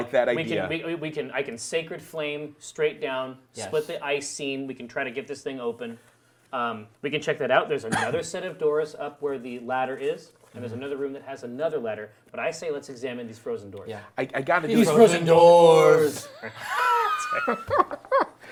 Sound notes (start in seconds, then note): 15.7 laughing